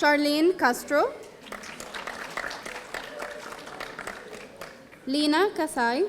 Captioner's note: audience applauding